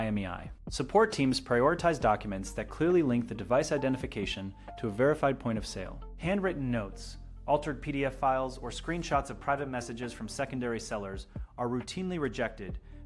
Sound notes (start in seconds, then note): 1.5 speak with a serious and informative tone